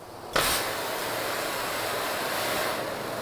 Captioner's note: hissing